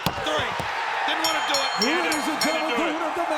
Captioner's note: bell rings